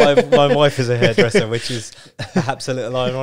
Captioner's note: both laugh